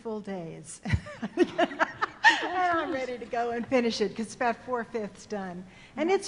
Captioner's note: laughing